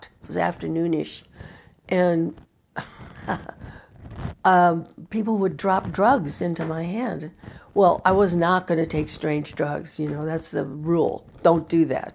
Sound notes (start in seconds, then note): 2.8 laughs